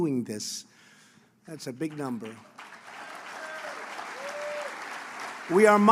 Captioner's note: applause